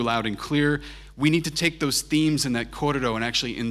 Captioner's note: foreign language